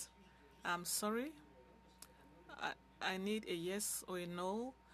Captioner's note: speaking French